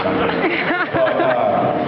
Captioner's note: laughs